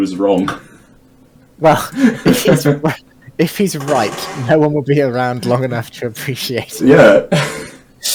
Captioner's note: laughing